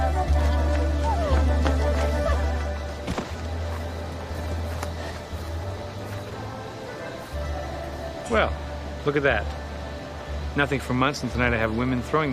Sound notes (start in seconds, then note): 3.1 thump